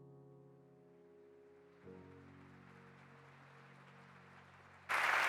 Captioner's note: audience applauding